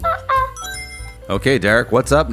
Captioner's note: monkey sounds; Sonic Ring Chime